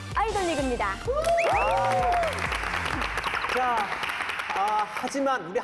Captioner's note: applause